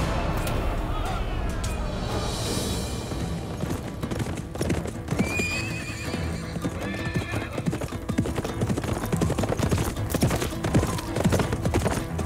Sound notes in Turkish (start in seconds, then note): 5.2 At kişniyor; 6.0 Yaklaşan at nalı sesi